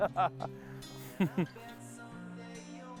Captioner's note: chuckling